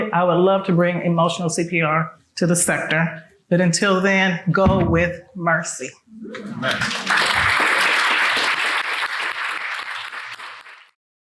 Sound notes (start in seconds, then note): 6.4 people clapping